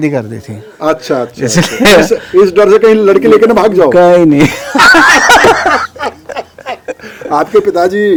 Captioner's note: laughs